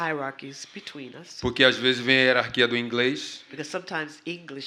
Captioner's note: speaking portuguese